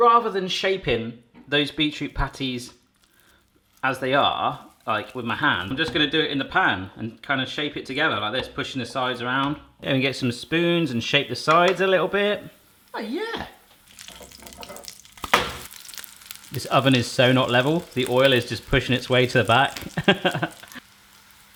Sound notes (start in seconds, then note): 14.3 sizzling; 19.8 laughs